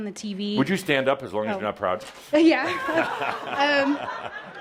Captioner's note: laughter